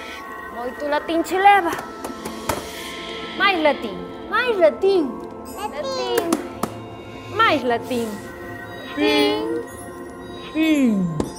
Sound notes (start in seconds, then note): 1.6 thudding sounds; 5.5 high-pitched voices; 8.9 distorted voice